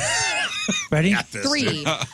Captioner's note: laughing